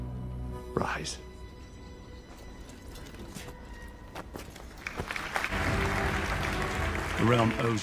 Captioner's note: applause